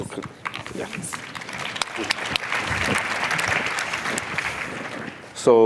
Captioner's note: applause